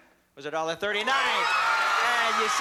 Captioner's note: cheering and applause